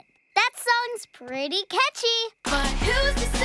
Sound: Catnova on radio

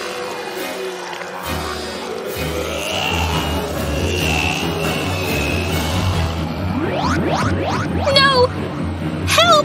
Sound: zombie sounds

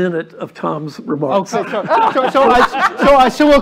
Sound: laughter

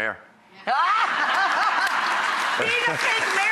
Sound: audience laughter

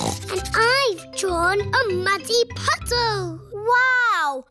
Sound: snorts

